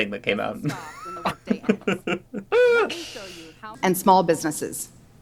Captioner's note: laughs in animal abuse and future human abuse